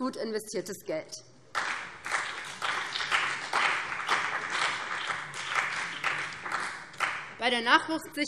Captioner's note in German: Beifall BÜNDNIS 90/DIE GRÜNEN und vereinzelt CDU